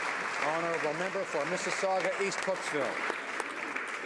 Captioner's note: some Applause